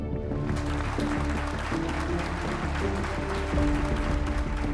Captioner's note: applause